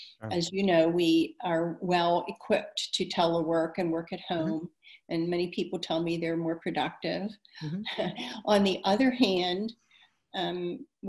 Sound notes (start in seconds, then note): 7.7 chuckles